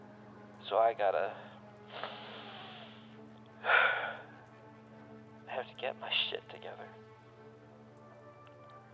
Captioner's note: inhales